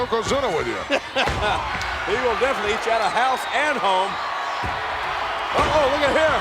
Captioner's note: laugh